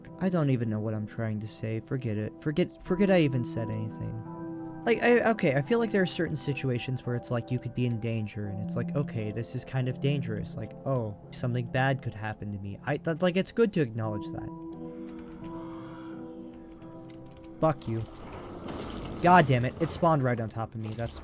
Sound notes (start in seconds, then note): 15.4 shrieker goes off